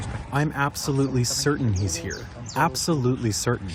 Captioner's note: through translator